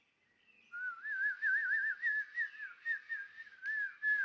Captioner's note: whistling